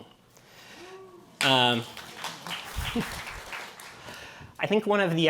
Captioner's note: cheering and applause